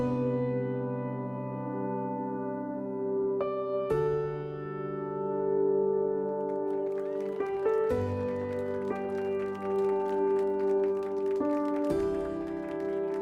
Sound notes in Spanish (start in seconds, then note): 6.2 Aplausos